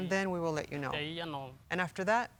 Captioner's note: speaking Spanish